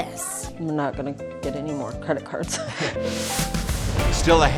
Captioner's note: chuckles